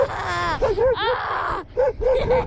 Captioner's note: shouts; barks